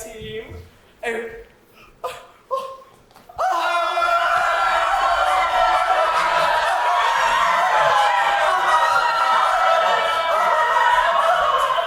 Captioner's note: screaming intensifies